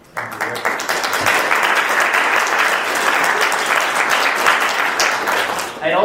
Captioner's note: audience applauding